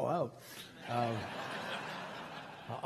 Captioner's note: crowd laughing